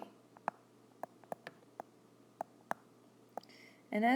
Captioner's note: tapping sound